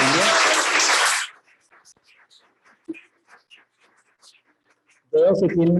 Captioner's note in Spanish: aplausos